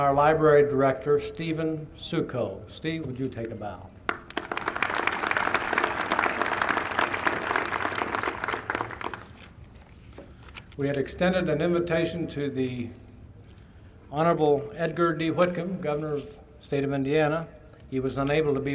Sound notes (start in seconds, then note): 4.0 applause